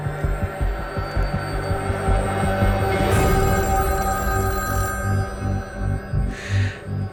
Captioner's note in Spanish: Suena el teléfono